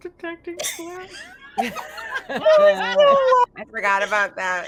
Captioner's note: everyone laughing